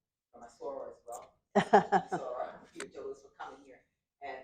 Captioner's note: laughter